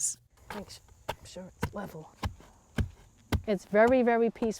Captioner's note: tool thuds